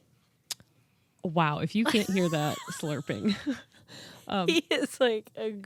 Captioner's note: chuckles